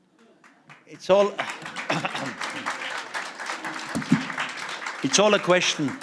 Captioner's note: applause